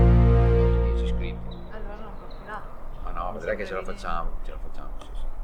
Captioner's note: conversation